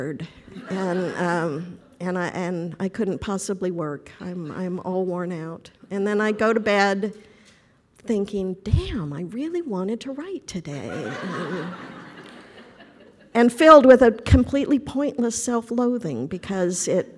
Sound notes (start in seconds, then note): 0.5 audience laughter; 10.9 audience laughter